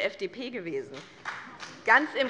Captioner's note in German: Beifall BÜNDNIS 90/DIE GRÜNEN